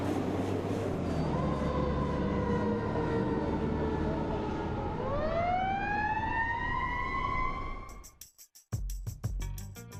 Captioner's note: siren